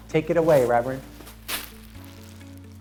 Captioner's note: pompom crunches